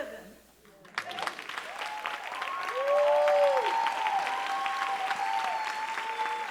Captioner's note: audience cheering and applauding